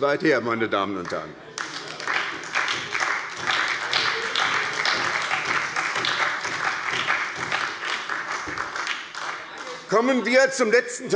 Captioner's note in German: Beifall bei der SPD - Zurufe von der CDU